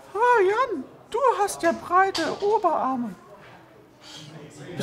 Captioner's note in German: mit hoher Stimme